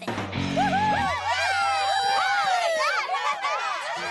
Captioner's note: cheering